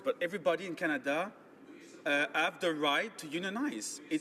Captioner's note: speaking French